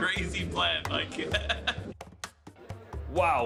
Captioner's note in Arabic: يضحك المدرب